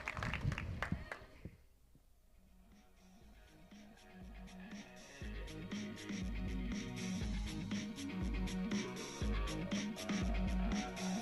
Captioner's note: applause